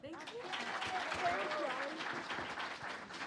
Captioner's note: audience clapping